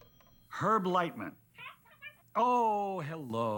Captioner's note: chatter